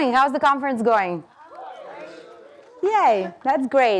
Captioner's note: audience cheering